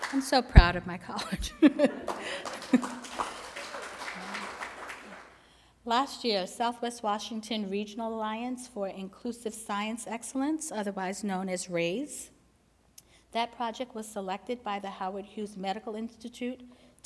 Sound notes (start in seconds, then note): 2.0 applause